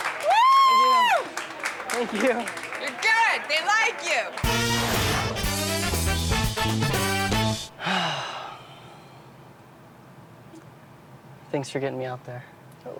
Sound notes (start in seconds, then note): 4.4 boisterous music; 7.7 sighs